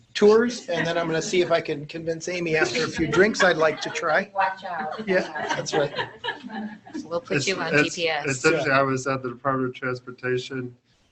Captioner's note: laughter